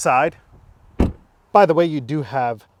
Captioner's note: car door closing softly